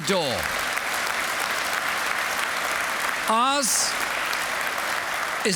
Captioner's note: applause